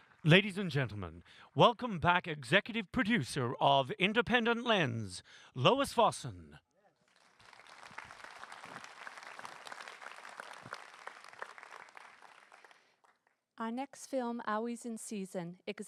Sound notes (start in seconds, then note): 7.0 applause